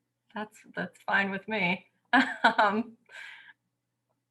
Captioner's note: laughter